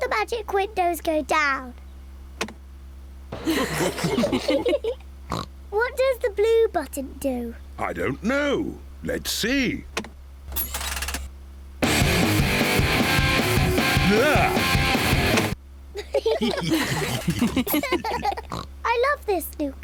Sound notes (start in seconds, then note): 16.5 all gasping